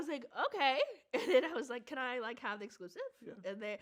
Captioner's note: chuckles